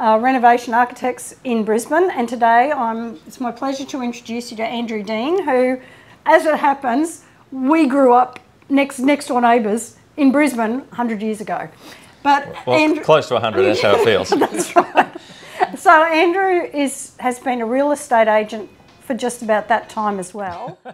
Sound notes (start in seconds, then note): 13.5 laughs